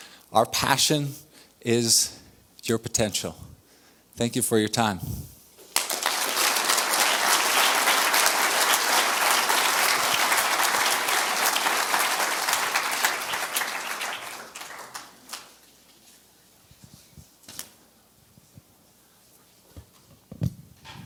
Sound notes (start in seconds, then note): 5.7 audience applause